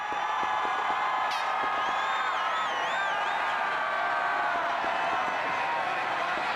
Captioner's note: sports fans cheering and whistling